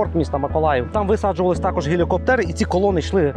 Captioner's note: russian